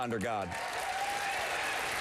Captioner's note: applause